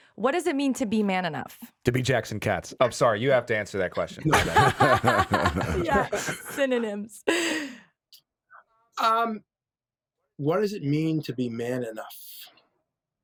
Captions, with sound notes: what does it mean to be man enough? - To be Jackson Katz? I'm sorry, you have to answer that question. (all laughing) - Yeah, synonyms. - What does it mean to be man enough?